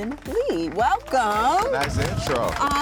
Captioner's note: applause